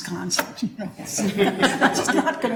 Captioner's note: all chuckling